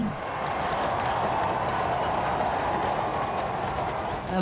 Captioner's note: crowd cheering